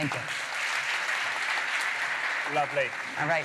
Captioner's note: applause